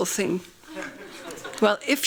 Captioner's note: laughing